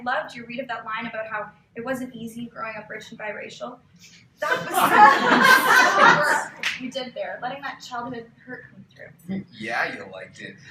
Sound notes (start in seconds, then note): 4.4 laughter